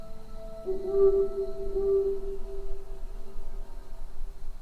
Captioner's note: owl hooting